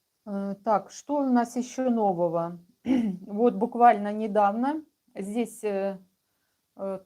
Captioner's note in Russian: откашливается